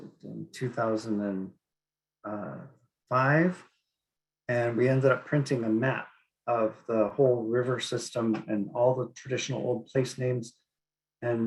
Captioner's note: speaking Inupiaq